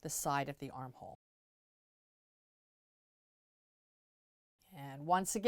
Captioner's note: no Sound Present